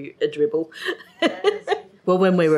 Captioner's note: laughs